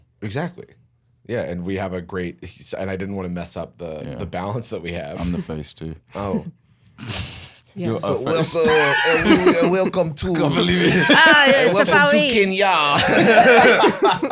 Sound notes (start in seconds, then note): 8.6 all doing French accents